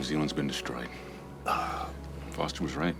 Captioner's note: moan